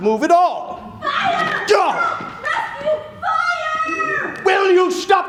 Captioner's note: yelling off stage ...fire